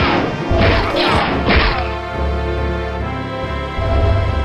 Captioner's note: thunk